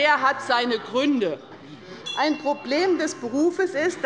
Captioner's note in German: Unruhe - Glockenzeichen des Präsidenten